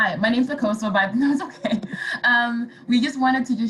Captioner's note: laughing